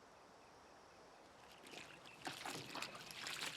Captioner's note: water tinkles